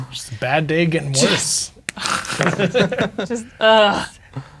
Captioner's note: laughing